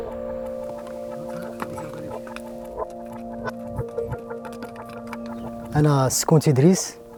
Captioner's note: horse hooves clatter